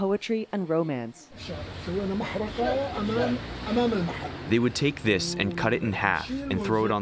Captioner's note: through translator